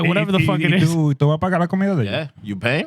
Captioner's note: speaking Spanish